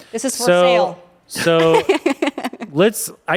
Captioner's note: laughs